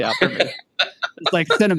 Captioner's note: laughing